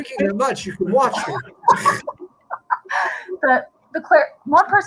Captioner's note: laughter